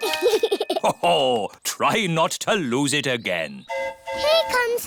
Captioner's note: giggles; train horn hooting